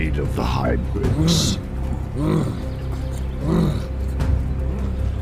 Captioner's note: man grumbling